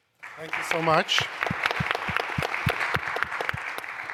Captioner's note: applause